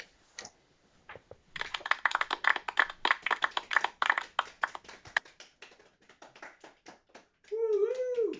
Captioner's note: small sounds of polite appreciation